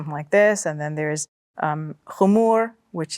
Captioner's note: speaks Arabic